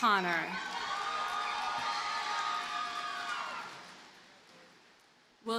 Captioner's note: audience cheers and applauds